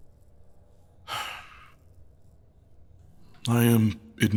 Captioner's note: Chartrulean sighs